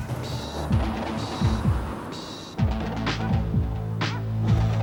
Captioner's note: car engine revving